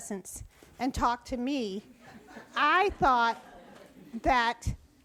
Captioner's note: audience laughs